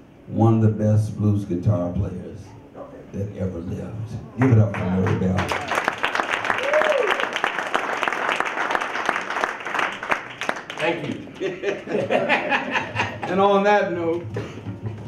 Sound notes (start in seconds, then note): 5.0 audience cheers; 7.1 audience applause; 11.2 men laugh